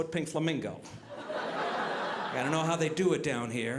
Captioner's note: audience laughing